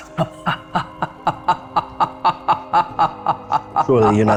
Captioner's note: laughs